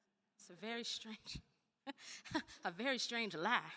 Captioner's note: laughs